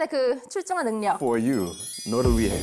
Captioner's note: overflowing sweetness sound effect